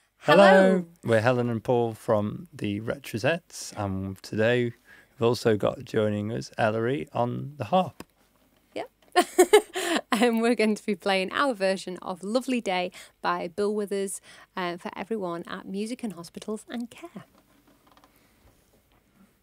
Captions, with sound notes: Hello we're Helen and Paul from the Retrosettes and today we've also got joining us Eleri on the harp. Yep *laughs* and we're going to be playing our version of Lovely Day by Bill Withers for everyone at Music in Hospitals & Care.